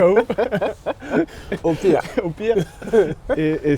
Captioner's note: laughs